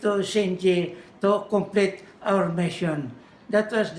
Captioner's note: foreign language